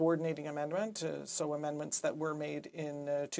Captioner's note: speaking French